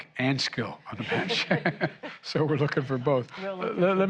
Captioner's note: laughter